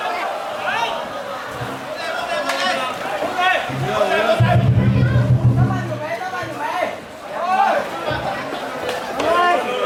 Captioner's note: slamming into the wall